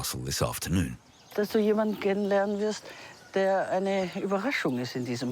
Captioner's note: speaking foreign language